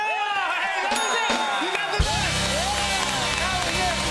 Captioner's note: cheers and applause; ding